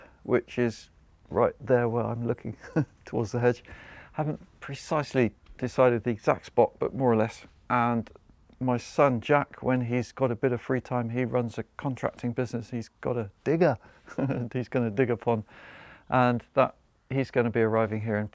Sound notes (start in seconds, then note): 14.0 chuckles